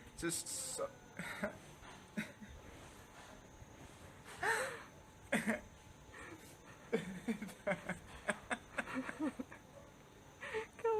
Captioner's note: sobbing with emotion